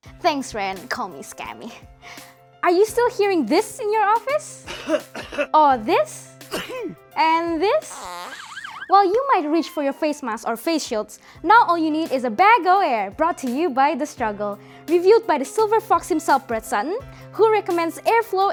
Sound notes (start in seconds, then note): 4.6 coughing; 6.4 sneezing; 7.9 farting and ambulance siren